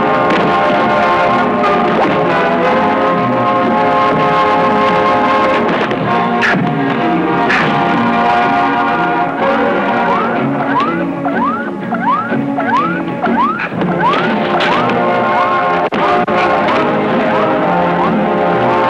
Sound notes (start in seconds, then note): 9.8 dramatic music; 10.0 electronic beeping; 13.8 dramatic music; 13.8 whacking